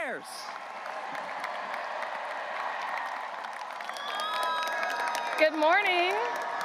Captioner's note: graduates cheering and applauding; audience cheering